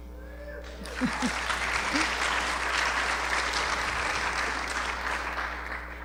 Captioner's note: applause